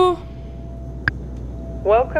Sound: click!

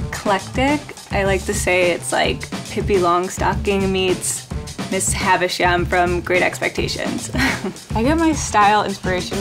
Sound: laughs

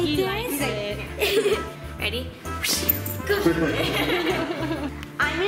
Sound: laughter

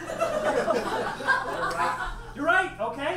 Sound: audience laughs

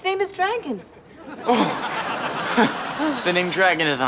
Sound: sighs

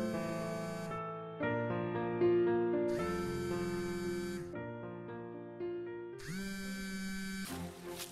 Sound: phone buzzes

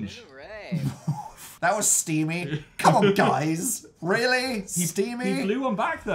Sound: scoffs

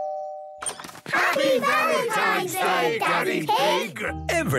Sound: doorbell rings; crowd

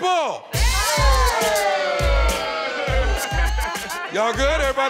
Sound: cheering

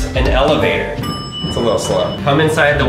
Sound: ding

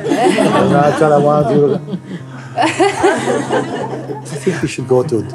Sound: laughter

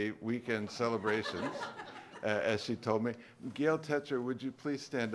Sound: laughter

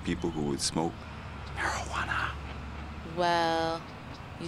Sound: whispers

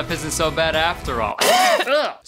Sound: coughing

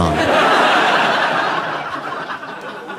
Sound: audience laughing

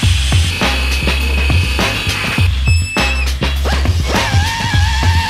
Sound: power tools whirring

